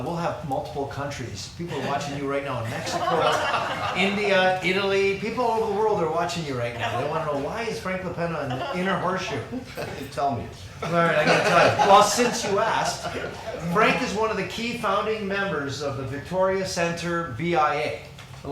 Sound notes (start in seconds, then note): 10.7 laughs